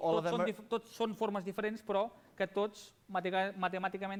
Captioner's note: non-english speech